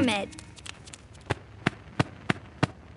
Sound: clap

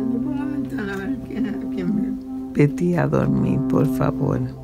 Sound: Spanish

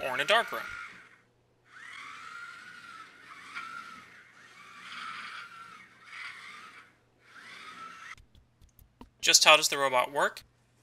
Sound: robot noises

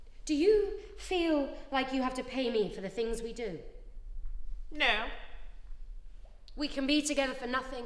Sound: none

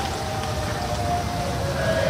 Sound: siren sounds

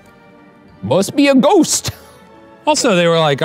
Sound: laughs

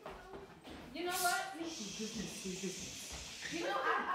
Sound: web noises

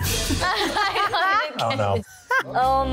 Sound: laughing

